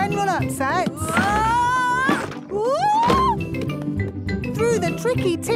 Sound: wood teetering

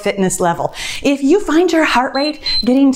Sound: timer beeps

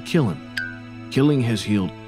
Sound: blink pinging

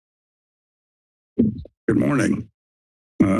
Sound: mic thumps

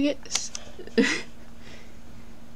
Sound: chortle

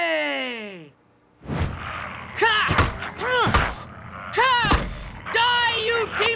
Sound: growling

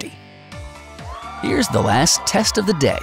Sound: crowd Cheers

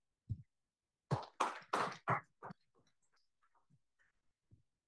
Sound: applause

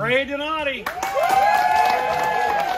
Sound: cheering

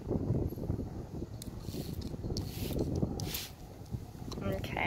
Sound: spray bottle spritzing

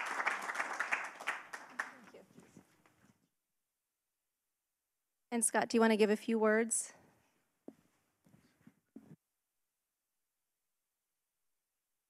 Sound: applause

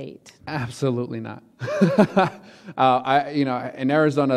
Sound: laughing

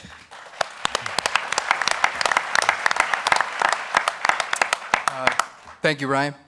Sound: applause

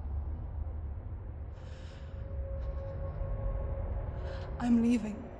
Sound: nervous breathing

